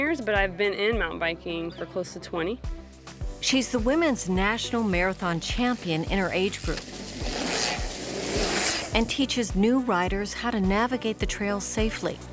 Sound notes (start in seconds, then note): 7.0 bikes riding past